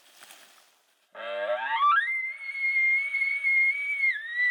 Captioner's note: caller bugling